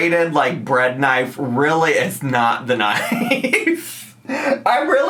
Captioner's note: laughs